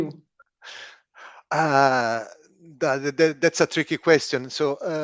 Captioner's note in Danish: chuckles